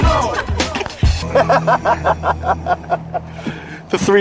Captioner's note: laughter; laugh